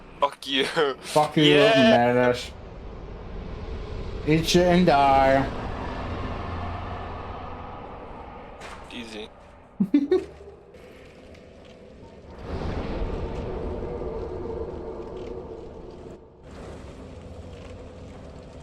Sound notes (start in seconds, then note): 9.8 chuckle